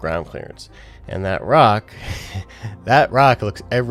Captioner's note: chuckles